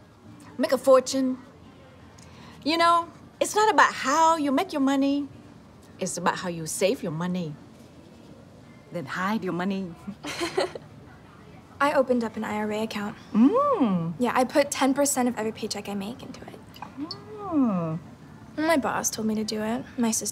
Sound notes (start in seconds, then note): 10.3 Max laughs